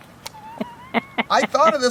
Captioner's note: laughter